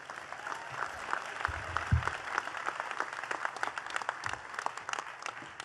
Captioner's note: attendees cheering and clapping